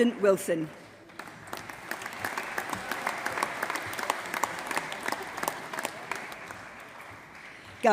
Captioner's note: applause